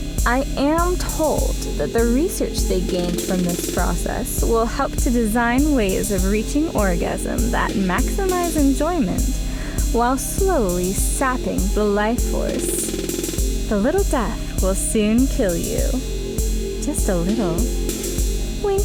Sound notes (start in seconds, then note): none